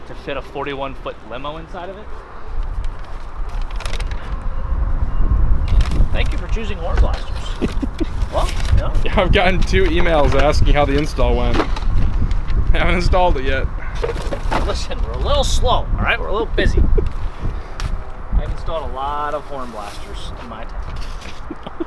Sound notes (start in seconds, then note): 7.2 cameraman laughing